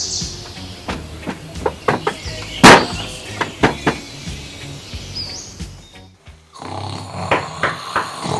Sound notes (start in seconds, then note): 0.8 knock knock knock